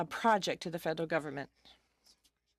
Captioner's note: speaking in French